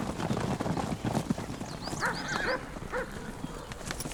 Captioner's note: dog barking